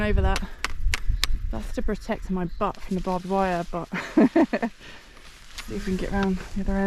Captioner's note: laughs